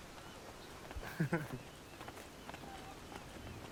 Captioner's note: Liam chuckles